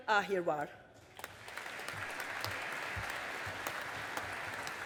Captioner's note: audience applauding